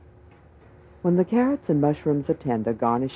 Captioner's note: voiceover